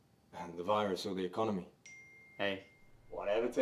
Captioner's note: phone pings